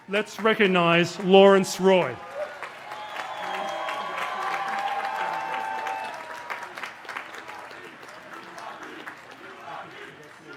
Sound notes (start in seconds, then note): 3.8 cheers and applause